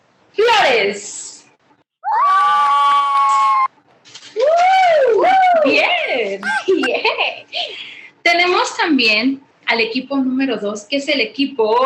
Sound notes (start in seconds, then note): 2.0 team cheering; 8.3 woman speaking Spanish